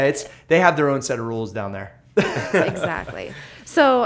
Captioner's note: laughter